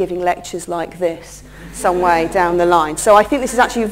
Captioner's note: laughter